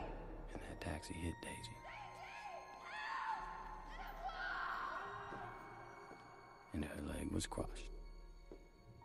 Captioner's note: woman screams, "Daisy, help! Aidez-moi!"